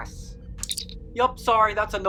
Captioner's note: communicator chirp